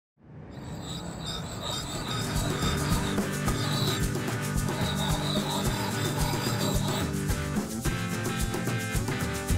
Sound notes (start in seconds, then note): 4.1 axe grinding; 6.8 axe grinding